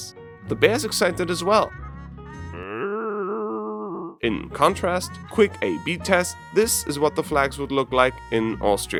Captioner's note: bear howls